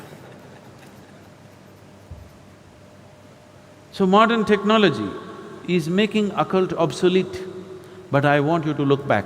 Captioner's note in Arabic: ضحك